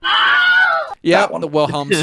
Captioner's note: screaming